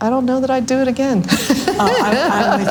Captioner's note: all laugh loudly